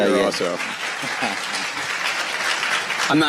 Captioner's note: applause